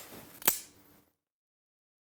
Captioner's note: click